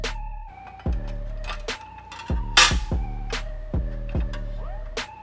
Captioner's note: metal clanking